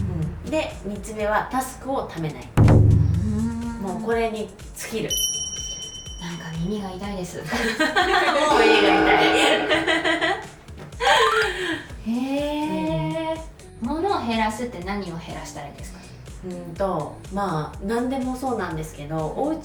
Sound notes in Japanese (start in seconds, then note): 9.3 笑い; 11.1 息をのむ音